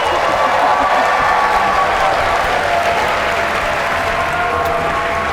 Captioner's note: cheers and applause